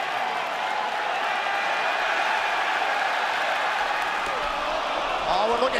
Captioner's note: cheers and applause